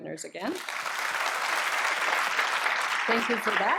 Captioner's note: applause